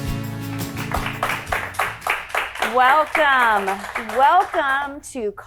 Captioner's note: audience applauding